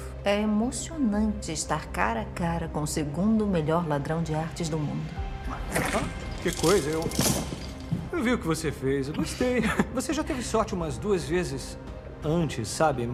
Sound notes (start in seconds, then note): 9.2 chuckles